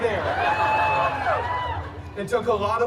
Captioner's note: guests cheering and laughing